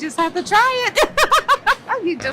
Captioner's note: laughs